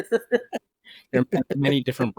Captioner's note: laughing